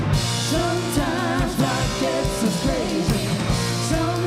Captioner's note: none